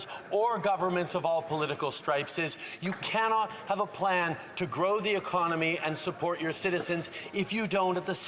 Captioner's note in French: voix de l'interprète